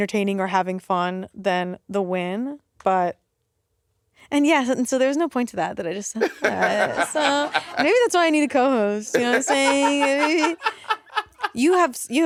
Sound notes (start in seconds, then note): 6.1 Monét laughing